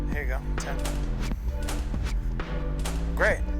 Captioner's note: camera shutter clicking